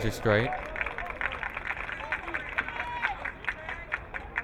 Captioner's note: crowd clapping